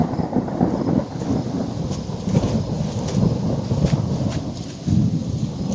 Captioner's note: thunder